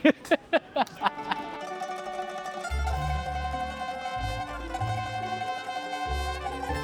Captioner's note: laughing; upbeat music